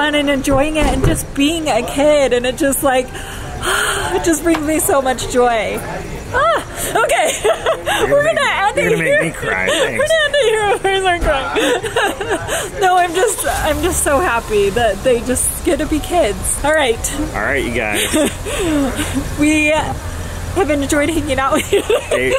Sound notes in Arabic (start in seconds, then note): 6.2 يضحك